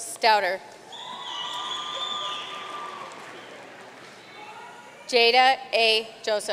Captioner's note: audience cheering and applauding